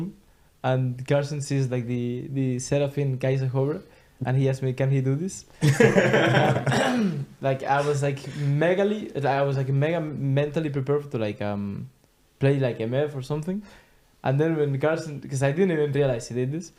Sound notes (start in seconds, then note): 5.6 all laughing